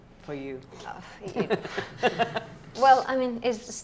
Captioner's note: laughing